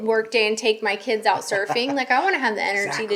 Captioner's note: laughing